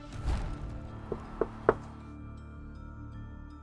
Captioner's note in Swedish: Tre knackningar